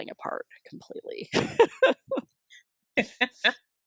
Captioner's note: laughter